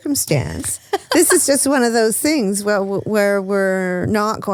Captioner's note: laughs